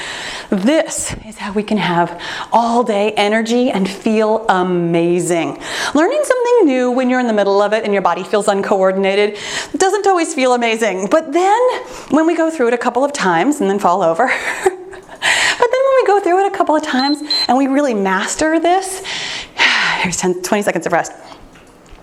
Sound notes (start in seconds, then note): 16.9 timer beeps